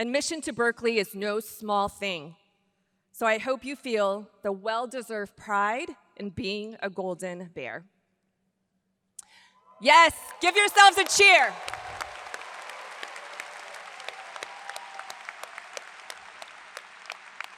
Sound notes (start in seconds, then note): 9.8 audience cheers; 12.3 audience applauds; 12.3 hands clapping